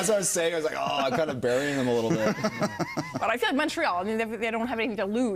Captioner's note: laughter